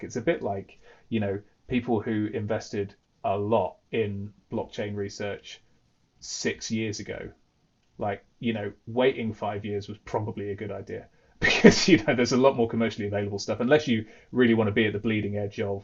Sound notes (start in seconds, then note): 11.4 laughs